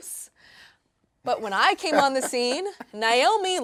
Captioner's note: laughing